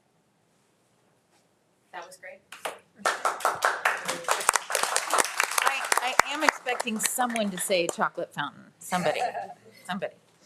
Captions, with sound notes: - That was great. (attendees and trustees applauding) I'm expecting someone to say chocolate fountain. Somebody, somebody.